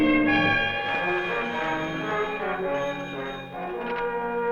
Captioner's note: phone ringing